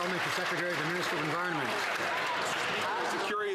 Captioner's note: some Applause